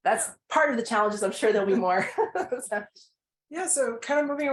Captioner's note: people laugh